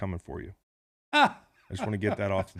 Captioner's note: laughs